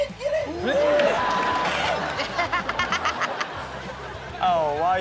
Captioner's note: audience laughs